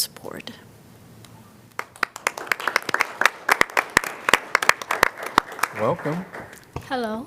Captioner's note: applause